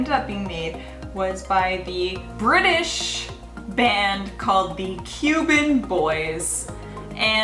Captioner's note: British